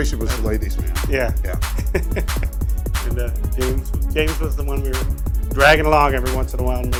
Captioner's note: laughs